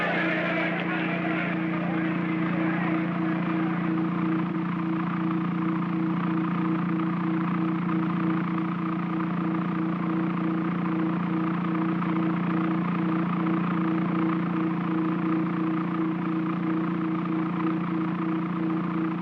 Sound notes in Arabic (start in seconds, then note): 0.0 هدير الطائرة; 0.0 صخب الحشد; 4.5 همهمة الطائرة